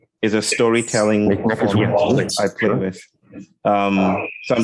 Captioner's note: indistinct conversation